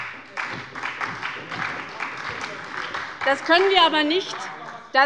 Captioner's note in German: Beifall bei der SPD